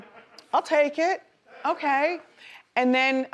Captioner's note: man laughs; man laughs